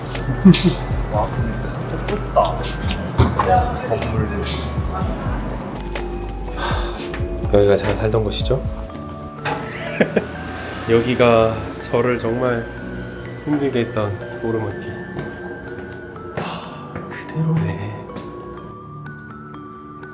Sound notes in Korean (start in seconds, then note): 6.5 깊은 한숨